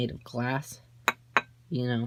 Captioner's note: tap tap